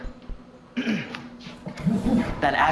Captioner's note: clears Throat